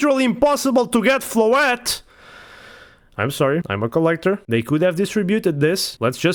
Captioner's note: breathes